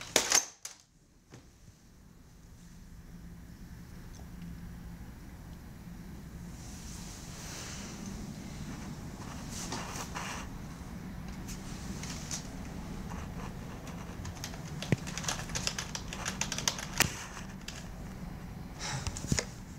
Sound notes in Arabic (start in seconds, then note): 0.3 ينتقد الهاتف; 13.7 النقر على مفاتيح الكمبيوتر